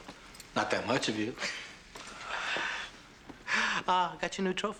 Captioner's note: chuckles